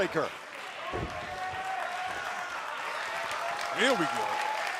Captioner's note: crowd cheering